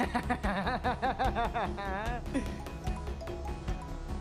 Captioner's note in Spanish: sonido de móvil